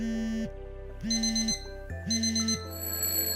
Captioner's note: phone vibrating; alarm ringing; bell ringing